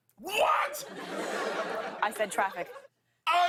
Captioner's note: laughter